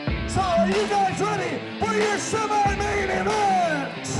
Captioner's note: rock music starts; shouting